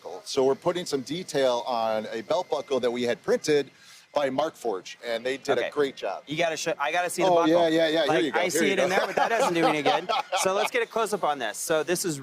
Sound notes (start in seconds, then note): 8.0 laughs